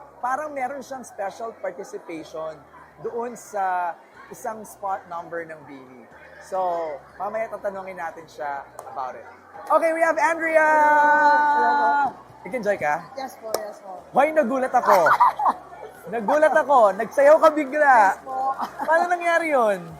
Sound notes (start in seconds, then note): 14.8 laughs